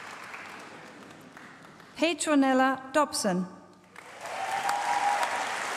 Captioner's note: applause